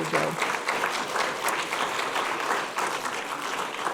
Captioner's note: audience clapping